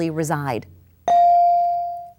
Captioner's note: bell dings